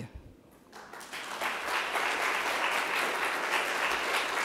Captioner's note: crowd clapping